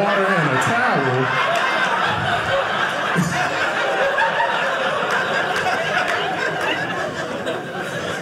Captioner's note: audience laughing